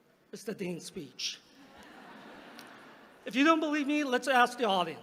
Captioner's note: laughter